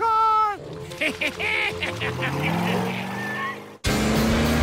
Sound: evil? giggling

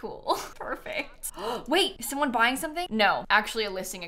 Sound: gasps

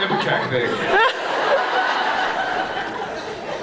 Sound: laughs

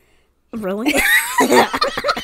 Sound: laugh

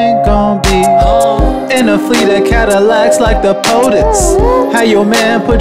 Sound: woo-oo-ooh

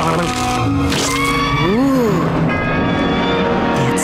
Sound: dinosaur screeching

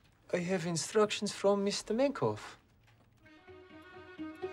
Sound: Russian accent

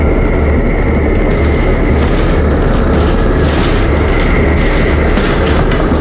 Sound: rattling

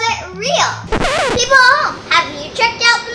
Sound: record scratches

